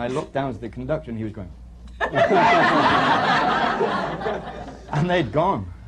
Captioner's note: laughter